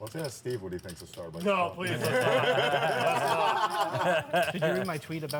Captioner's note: laughter